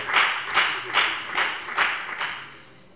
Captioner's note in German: Lebhafter Beifall bei der FDP